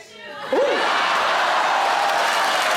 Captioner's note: audience exclaiming; audience applauds